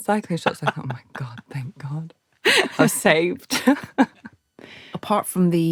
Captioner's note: laughs